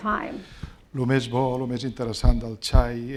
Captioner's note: speaking spanish